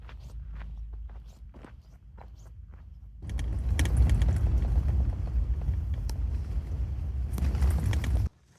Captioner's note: wind blowing